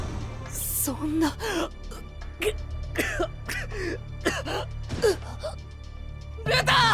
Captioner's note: cough cough